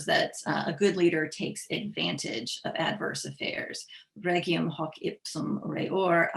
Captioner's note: speaking latin